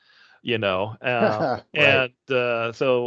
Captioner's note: chuckling